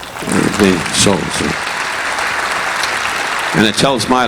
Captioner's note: audience applauding